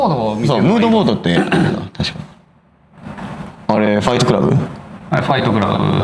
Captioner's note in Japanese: 咳払い